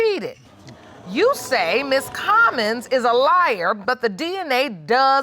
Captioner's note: audience exclaiming